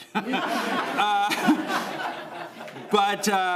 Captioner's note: laughter